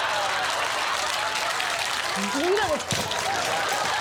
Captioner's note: audience laughter